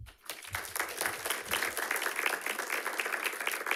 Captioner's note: audience clapping